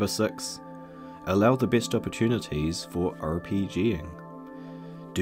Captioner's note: audible nasal breathing